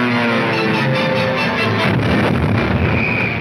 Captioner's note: explosion booming; officer whistling; footsteps tapping